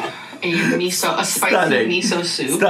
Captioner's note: laughing